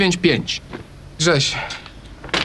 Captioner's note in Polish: none